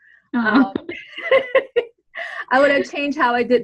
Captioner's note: laughs